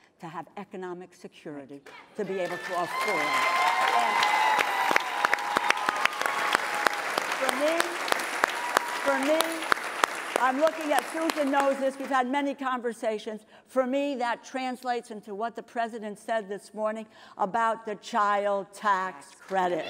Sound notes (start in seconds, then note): 4.2 applause